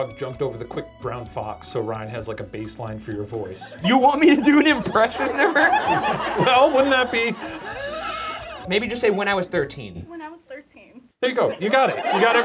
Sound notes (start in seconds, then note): 8.1 laughing